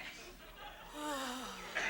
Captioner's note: sighs